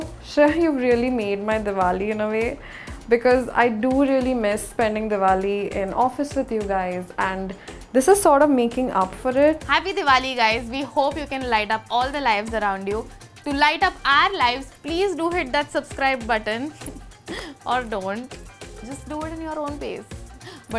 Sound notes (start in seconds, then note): 17.3 chuckles